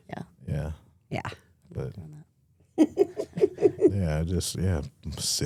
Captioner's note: Stephanie laughs